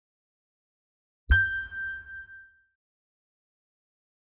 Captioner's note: chime sounding